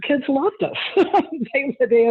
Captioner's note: laughs